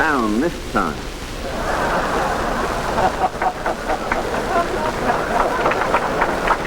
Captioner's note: crowd laughs and applauds